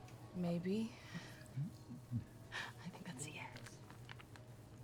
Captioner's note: whispering